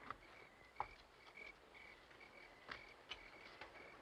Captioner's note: crickets chirping